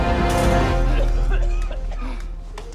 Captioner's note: coughing